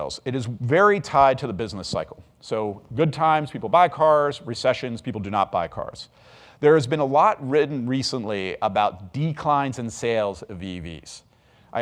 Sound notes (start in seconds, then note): none